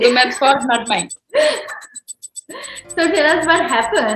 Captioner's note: laughs